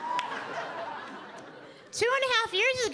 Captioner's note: audience laughing